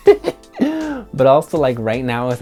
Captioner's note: laughs